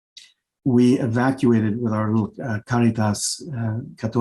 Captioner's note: speaking Spanish